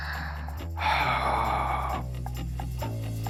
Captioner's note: sighs